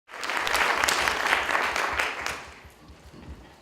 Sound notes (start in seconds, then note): 0.0 audience Applauding